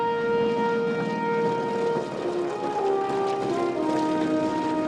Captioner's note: airplane propellers